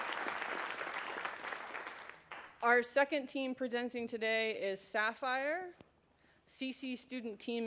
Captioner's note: applause